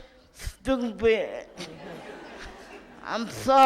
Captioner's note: audience laughs